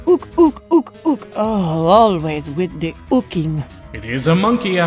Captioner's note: groan